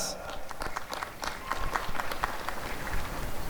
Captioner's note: applause and cheering